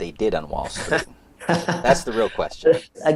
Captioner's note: laughs